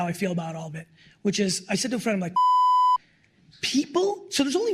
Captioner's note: beep